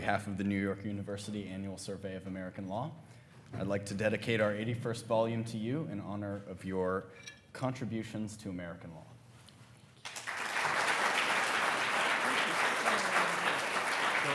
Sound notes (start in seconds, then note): 10.0 attendees applauding